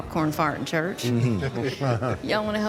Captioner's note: laughter